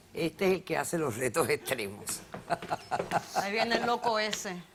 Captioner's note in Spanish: Ríe